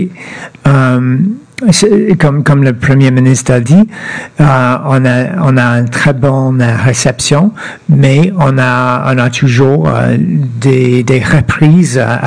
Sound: speaking French

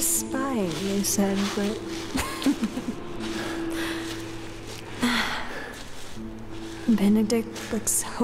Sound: chuckle

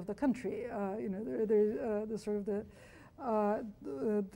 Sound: stutters

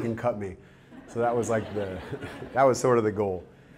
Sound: audience laughter

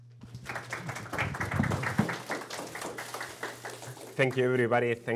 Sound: audience applauding

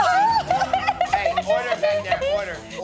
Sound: cries

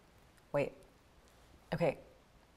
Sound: none

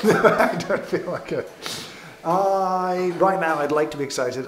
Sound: laughs

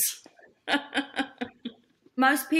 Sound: laughs

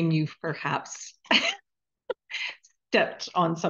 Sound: chuckling

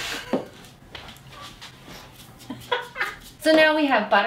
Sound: laughs

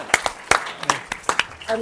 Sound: applause

